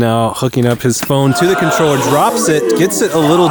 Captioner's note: crowd gasping